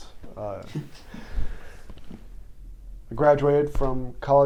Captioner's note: chuckles politely once